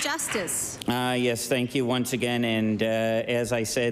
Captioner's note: applause